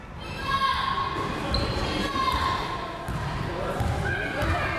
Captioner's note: crowd members shouting